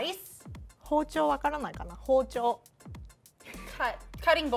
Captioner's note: speaking Japanese